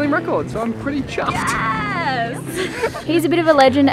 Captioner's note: laughs